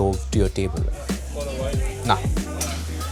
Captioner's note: people chattering